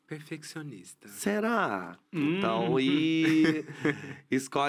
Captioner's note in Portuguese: risos